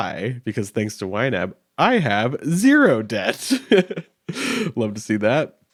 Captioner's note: laughing